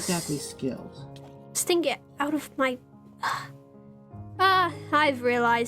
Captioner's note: sigh